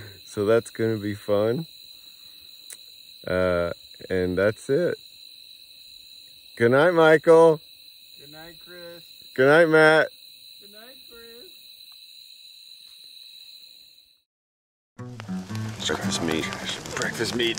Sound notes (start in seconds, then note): 11.8 food sizzles